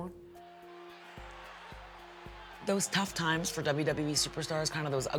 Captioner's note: applause